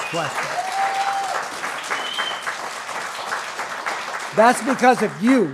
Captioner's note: applause